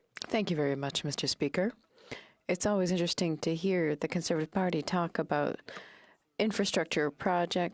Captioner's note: speaking French